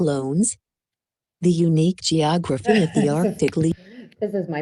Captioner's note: laughs